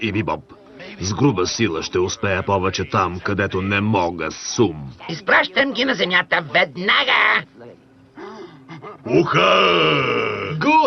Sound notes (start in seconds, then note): 8.1 laughs